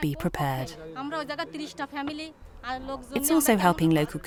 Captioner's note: foreign language